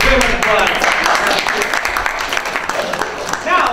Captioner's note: applause